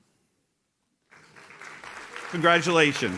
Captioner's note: audience claps